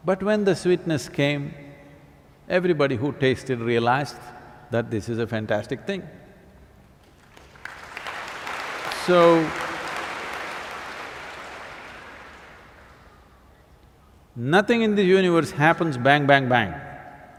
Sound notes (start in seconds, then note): 7.0 applause